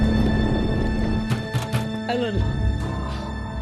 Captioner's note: knocking